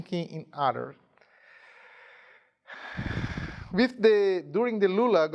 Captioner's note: sighing